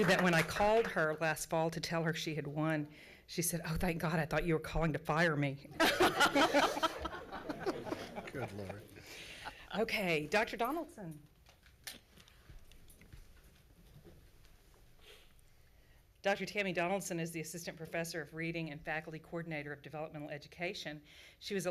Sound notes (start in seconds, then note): 5.8 laughs